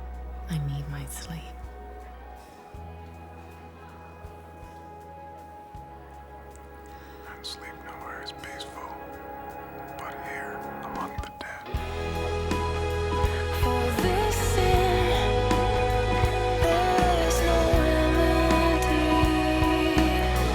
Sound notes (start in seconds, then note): 7.0 whispering